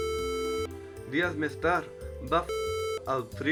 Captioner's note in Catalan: piiiip